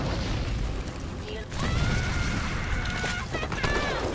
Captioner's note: screaming